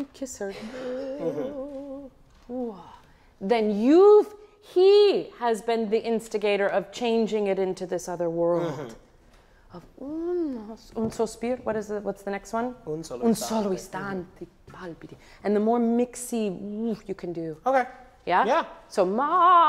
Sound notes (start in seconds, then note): 1.5 singing in foreign language; 10.4 speaks in foreign language; 13.4 speaks in foreign language